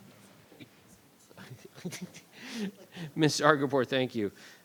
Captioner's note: laughing